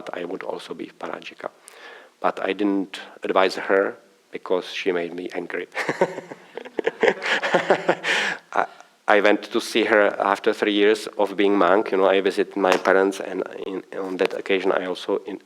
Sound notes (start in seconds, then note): 5.7 laughter